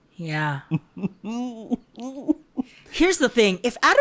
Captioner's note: chuckles